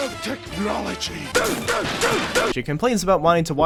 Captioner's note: raging noises